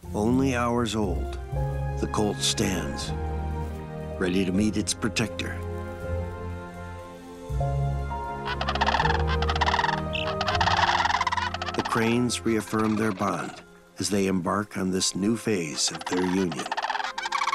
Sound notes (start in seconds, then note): 8.1 cranes calling; 9.9 gentle music playing